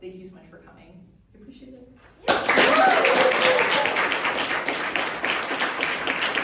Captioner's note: audience applauds and cheers